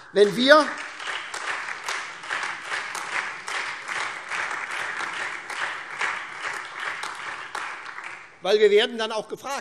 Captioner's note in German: Beifall SPD, AfD, Freie Demokraten und DIE LINKE